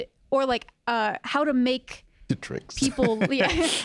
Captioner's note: chuckles